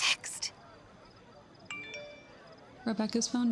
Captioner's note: phone chime